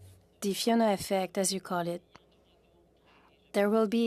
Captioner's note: speaking French